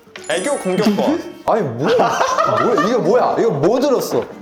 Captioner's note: laughing